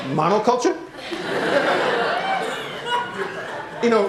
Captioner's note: laughter